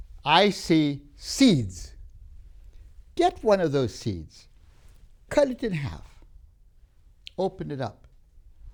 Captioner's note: breaths